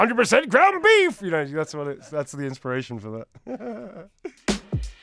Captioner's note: laughs